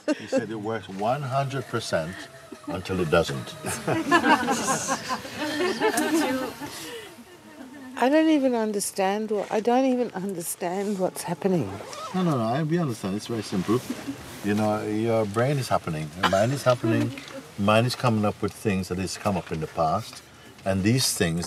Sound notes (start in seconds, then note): 4.0 Lachen